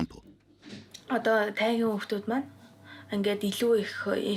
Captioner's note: foreign spoken audio